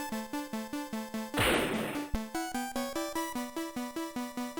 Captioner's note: slam